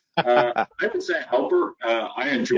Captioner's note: laughing